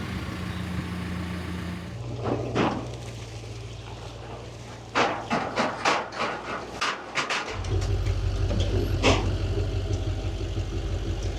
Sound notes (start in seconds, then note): 0.0 telehandler whirring; 2.7 metal clanking